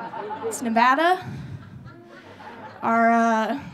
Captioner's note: audience laughing